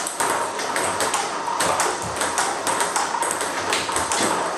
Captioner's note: ball ping pong hitting continues